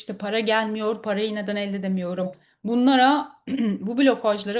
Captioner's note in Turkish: boğazını temizler